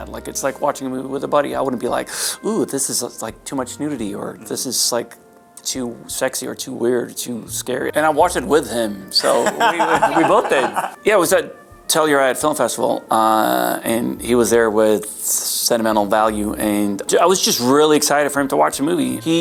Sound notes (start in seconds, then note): 2.1 inhales sharply; 9.2 Harry laughs